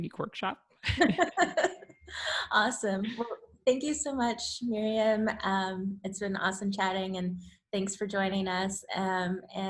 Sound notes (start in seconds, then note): 0.8 laughter